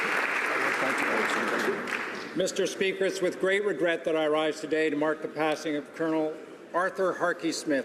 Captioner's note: applause